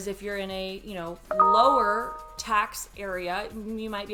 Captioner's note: phone notification beeps